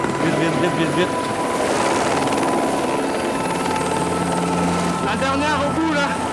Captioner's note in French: bruit de l'hélicoptère